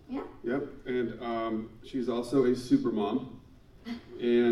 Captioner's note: laughs